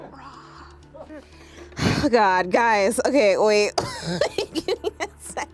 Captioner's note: laughs